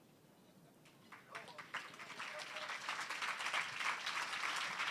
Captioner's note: applause